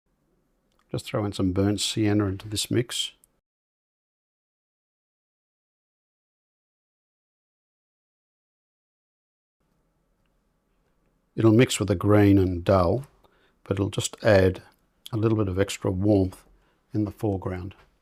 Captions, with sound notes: Just throw in some burnt sienna into this mix. [silence] It'll mix with the green and dull but it'll just add a little bit of extra warmth in the foreground.